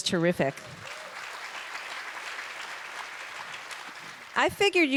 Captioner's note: applause